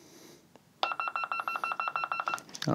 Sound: beeping

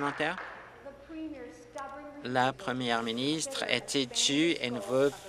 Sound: applause

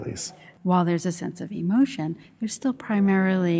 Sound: voiceover

